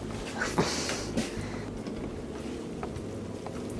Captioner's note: woman scoffing